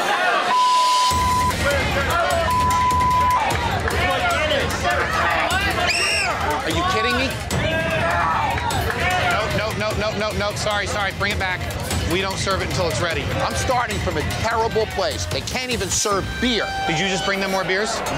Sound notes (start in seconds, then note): 0.4 beep; 5.8 whistle blowing